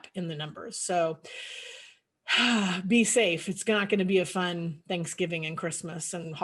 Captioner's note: sighs